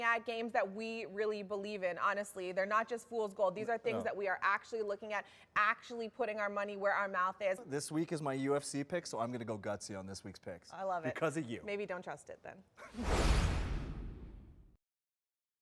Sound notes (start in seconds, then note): 12.9 logo whooshes